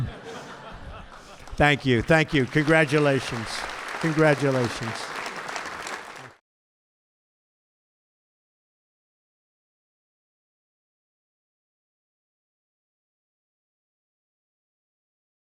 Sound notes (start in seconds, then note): 0.0 laughter; 4.7 applause